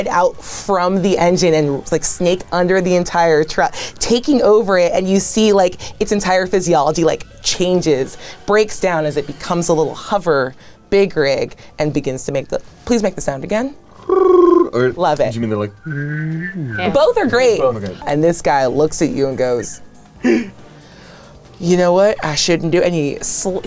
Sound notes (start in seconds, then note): 13.9 coos; 15.7 whistling deeply